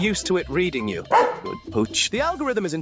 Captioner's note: Robo Dog barks